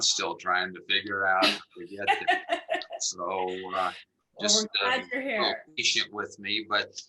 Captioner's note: laughter